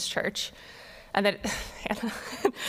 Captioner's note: laughing